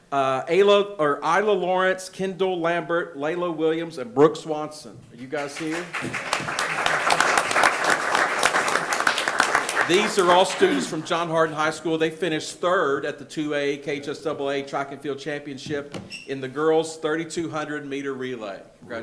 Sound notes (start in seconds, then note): 5.4 attendees applauding